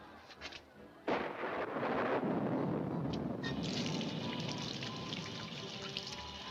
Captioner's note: water sloshing; thunder cracking